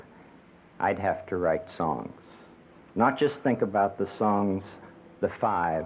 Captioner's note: none